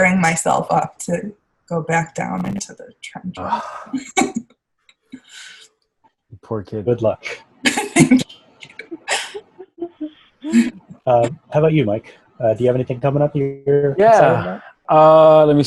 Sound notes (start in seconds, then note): 10.4 laughing